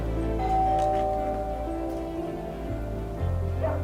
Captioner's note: door bell